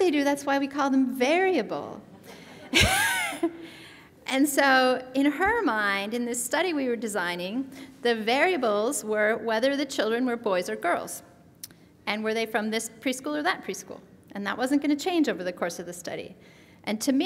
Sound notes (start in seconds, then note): 2.3 laughs